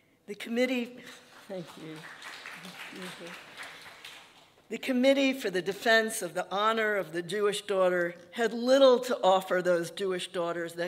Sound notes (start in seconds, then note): 2.6 audience applauding